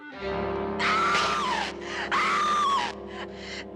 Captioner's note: çığlık atıyor